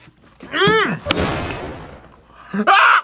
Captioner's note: slaps table again